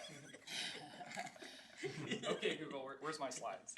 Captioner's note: laughing